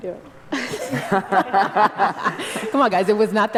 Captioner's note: panel laughter